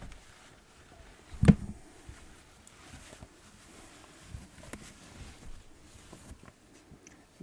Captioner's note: bumping the microphone, fabric rustling